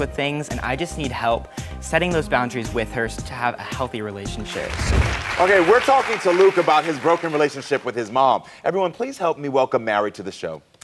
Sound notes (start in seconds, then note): 4.4 audience applauds